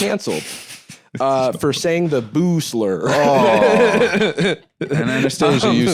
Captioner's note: laughs